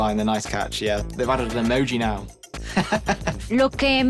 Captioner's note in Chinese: 笑聲; 說著 西班牙語